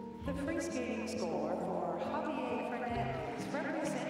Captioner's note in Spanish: hablan en inglés